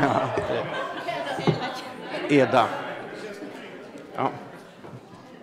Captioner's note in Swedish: Skratt